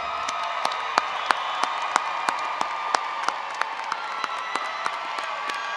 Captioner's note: crowd cheering and applauding